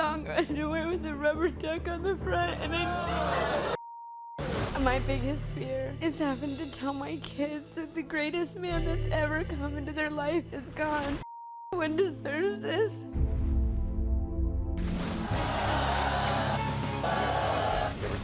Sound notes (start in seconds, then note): 2.7 crowd yelling; 3.8 beep; 11.3 beep; 15.2 crowd shouting